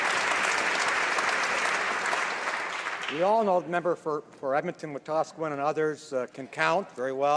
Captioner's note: some Applause